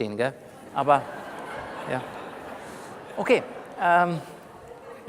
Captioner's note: laughter from the audience